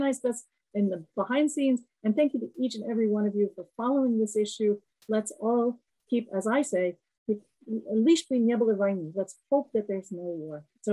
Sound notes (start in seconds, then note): 7.9 russian